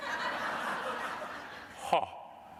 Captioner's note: audience laughing